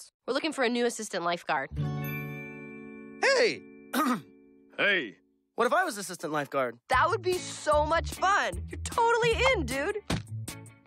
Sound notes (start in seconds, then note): 3.9 clears throat; 4.1 slightly deeper voice